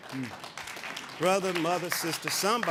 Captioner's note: audience applauding